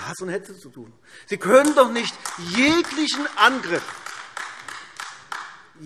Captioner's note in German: Beifall AfD